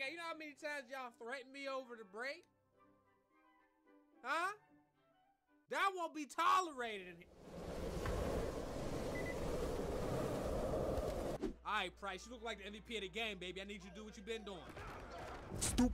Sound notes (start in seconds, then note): 8.8 whooshing and beeping